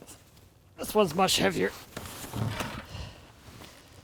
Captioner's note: sighs